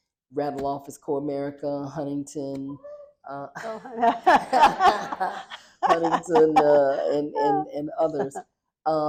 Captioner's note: laughter